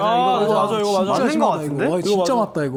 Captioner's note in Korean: 웅성웅성